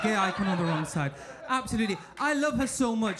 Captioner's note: audience laughing